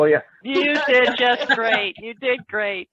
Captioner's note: joined laughing